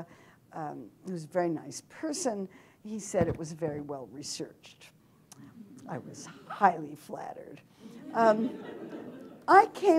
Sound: laughter

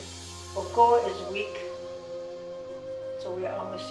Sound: speaking in a foreign language

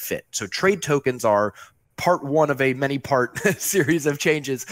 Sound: laughs

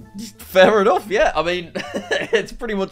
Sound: chuckles

